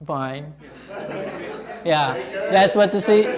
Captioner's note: students laughing